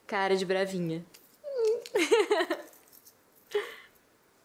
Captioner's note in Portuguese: risos